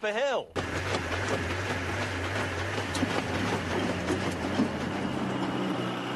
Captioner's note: clanking